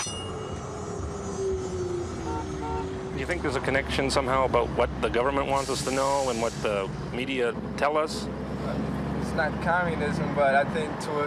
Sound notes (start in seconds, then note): 0.0 tram bell dings; 0.2 tram whirring; 2.1 horns honking